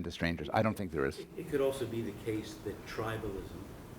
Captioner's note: voiceover